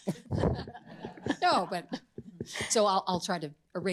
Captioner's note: all laugh